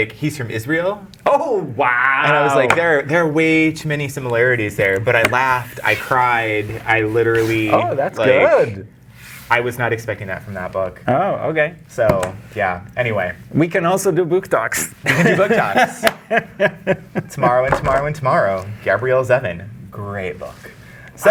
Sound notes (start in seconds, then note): 15.0 laughing